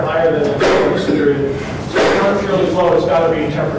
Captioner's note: student sneezes